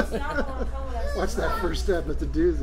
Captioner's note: laughs